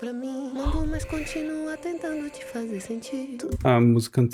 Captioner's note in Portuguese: suspirando